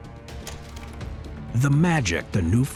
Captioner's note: suspenseful music; tape reeling